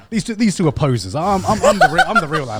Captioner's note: laughs